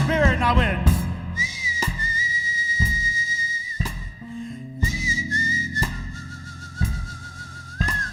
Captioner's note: whistling